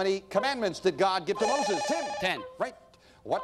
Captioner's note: bell rings